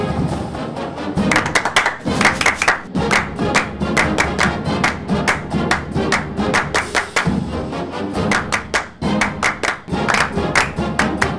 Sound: clapping

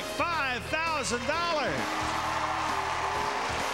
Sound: applause

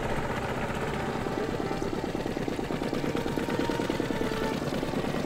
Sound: boat engine running

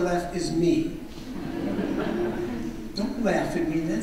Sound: audience laughs

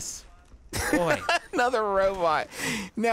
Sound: laughing

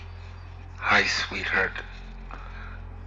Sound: recorded Voice

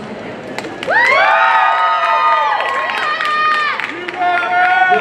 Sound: audience cheering

